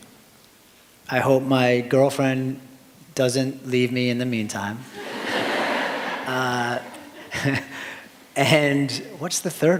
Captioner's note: laughter